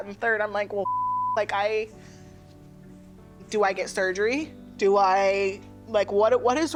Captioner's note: beep